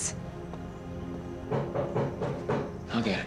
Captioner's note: knocking